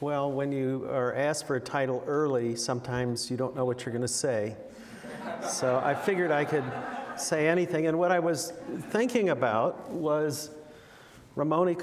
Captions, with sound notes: Well, when you are asked for a title early, sometimes you don't know what you're gonna say. (audience laughing) So, I figured I could say anything and what I was thinking about was Ramon y Cajal